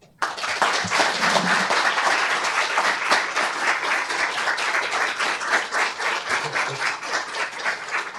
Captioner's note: clapping